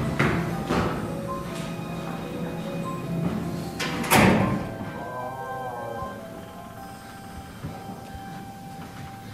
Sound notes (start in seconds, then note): 5.6 door creeks